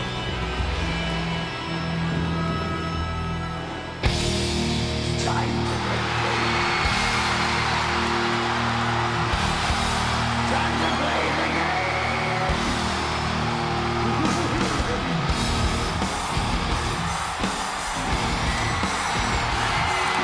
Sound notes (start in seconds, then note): 4.2 upbeat music; 8.3 audience cheers; 14.3 laughs; 16.2 audience continues cheering